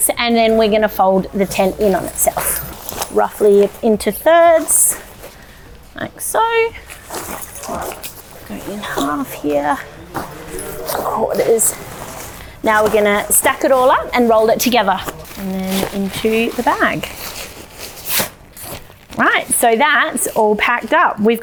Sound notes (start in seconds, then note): 7.0 murmurs